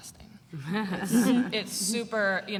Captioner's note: laughter